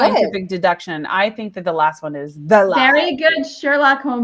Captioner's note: laughs